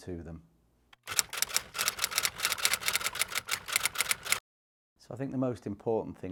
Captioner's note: typewriter clicking